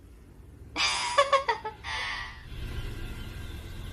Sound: laughs

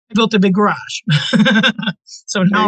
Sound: laughing

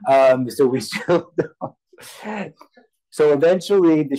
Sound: laughs

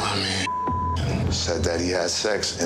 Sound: beep

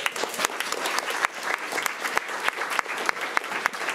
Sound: crowd clapping

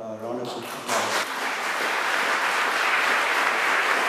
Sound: applause

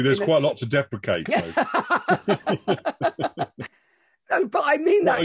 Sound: laughter

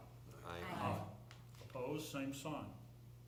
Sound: chorus of ayes

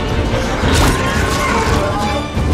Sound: screeches

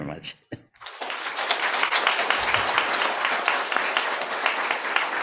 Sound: applause

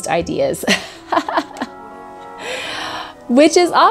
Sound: laughs

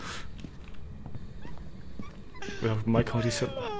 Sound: squeaky toy

